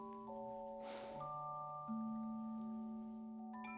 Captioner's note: sigh